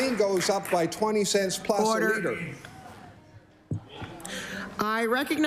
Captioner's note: applause